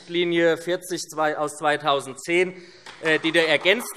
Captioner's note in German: Beifall